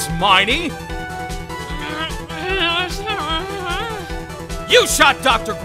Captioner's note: growling